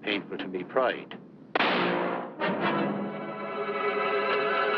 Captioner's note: gunshot